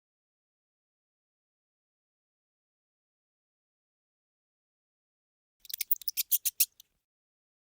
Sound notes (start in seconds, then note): 5.6 mouse squeaking